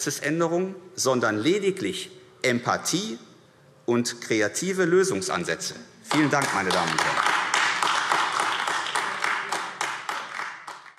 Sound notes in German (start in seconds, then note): 6.0 Beifall AfD